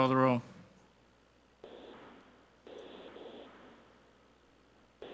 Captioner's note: static crackling